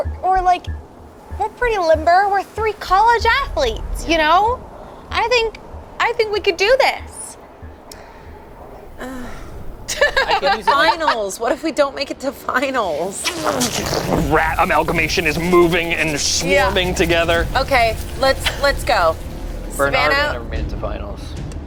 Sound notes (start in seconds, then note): 9.0 groans; 9.8 laughs